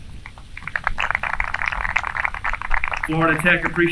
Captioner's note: applause